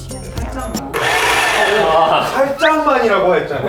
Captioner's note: blender revving really high